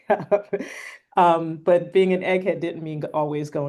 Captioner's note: laughter